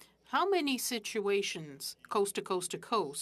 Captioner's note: speaking French